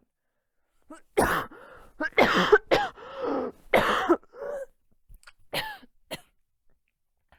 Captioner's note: coughing fit